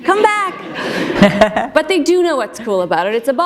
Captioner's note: laughter